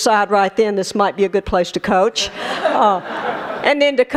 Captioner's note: laughter